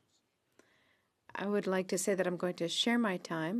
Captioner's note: speaking French